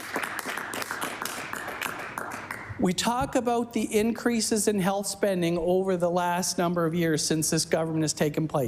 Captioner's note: applause